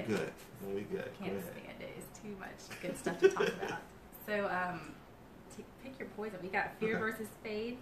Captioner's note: laughter